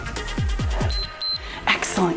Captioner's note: timer beeps